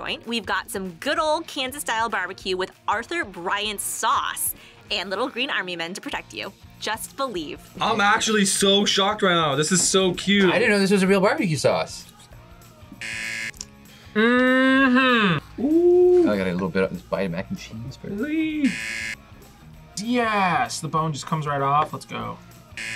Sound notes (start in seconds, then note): 13.0 buzzer; 18.6 buzzer; 22.7 buzzer